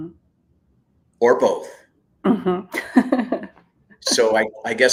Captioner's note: laughs